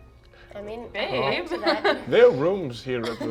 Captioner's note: laughs